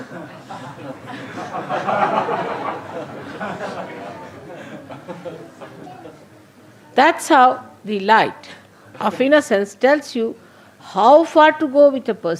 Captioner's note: laughter